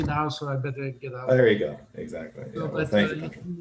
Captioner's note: chatter